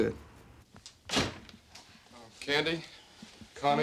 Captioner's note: door closes